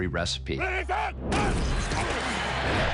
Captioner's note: crowd cheering